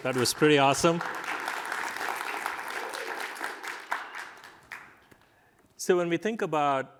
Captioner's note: applause